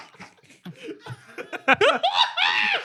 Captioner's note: laughing